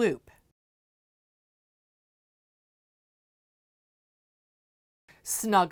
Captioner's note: no Sound Present